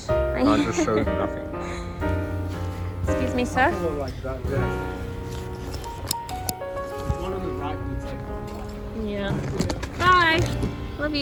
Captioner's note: laughs